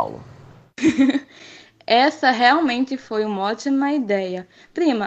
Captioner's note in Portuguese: riso